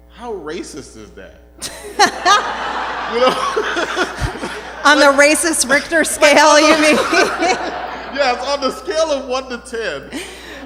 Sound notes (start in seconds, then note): 3.5 laughter